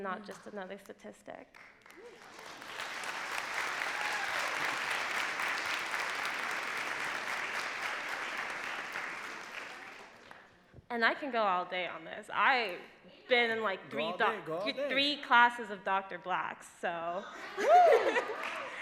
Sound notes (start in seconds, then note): 3.9 clapping; 16.9 laughs